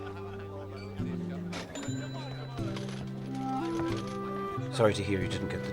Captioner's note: cash register dinging